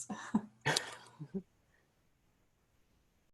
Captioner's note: chuckling